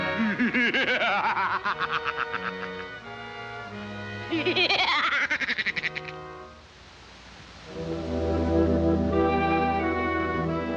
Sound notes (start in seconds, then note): 0.6 Death cackling; 4.2 Woody cackling; 7.6 solemn music